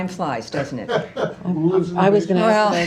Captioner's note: laughter